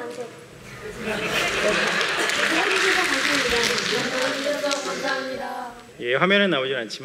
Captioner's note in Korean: 웃음과 박수